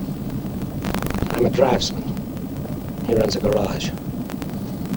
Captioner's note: distorted